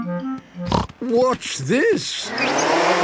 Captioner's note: snorting